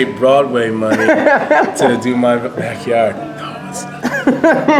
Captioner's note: whispers